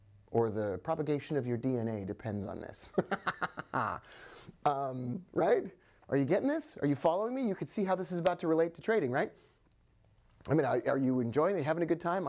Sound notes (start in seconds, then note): 2.9 chuckling